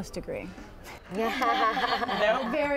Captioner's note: laughter